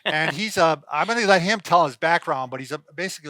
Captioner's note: laughs